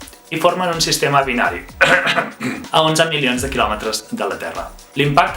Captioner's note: ahem